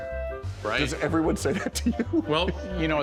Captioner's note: laughs